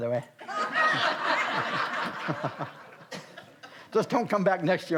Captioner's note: all laugh